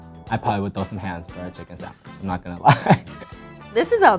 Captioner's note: laughs